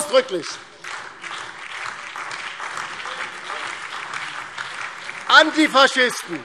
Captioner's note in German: Beifall DIE LINKE, BÜNDNIS 90/DIE GRÜNEN und SPD